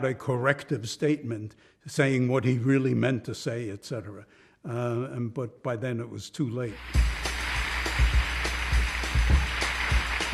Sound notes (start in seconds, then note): 6.7 applause